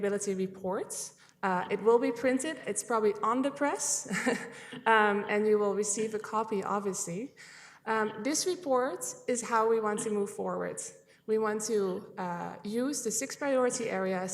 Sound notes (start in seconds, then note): 5.8 chuckling